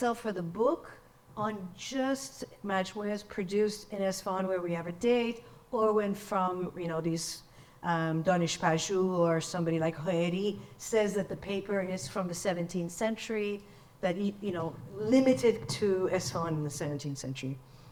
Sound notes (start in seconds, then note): 8.2 speaks in foreign language